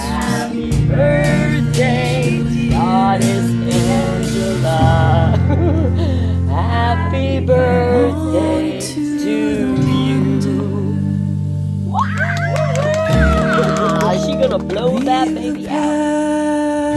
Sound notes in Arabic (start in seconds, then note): 11.9 تصفيق وهتاف